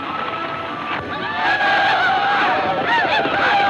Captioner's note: group ululating